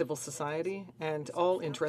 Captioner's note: speaking in French